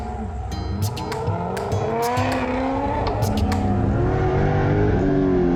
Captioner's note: engines revving